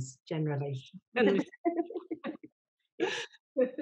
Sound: laughs

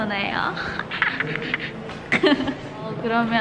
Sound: laughing

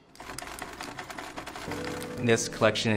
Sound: air clacks

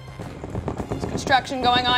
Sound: banging on easel

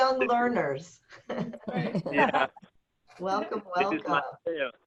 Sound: laughter

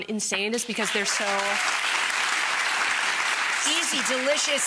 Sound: audience clapping

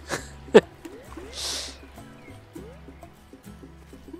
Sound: laughs

